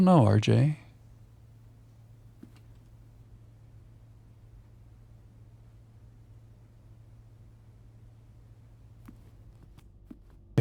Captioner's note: silence